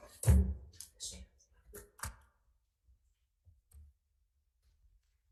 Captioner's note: staff member whispers faintly